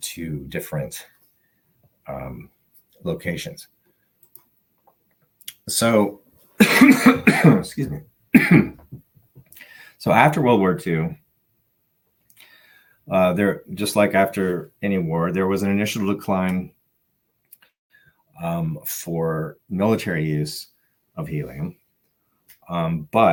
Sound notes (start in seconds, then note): 6.6 coughs